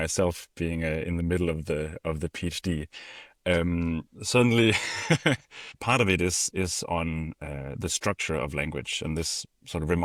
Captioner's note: laughs